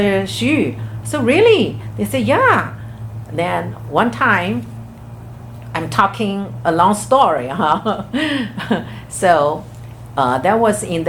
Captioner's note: laughs